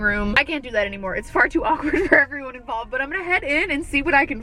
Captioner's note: giggling